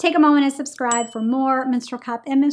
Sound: bell dinging

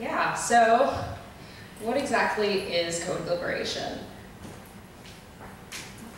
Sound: voiceover

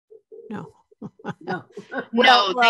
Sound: chuckles; laughs

